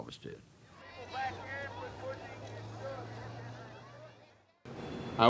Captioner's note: crowds talking